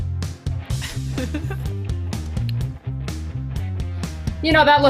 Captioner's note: laughs